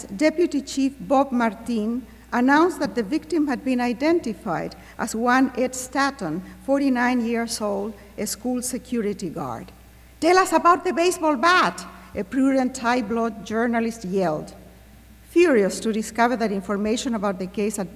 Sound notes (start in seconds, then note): 10.5 non-english speech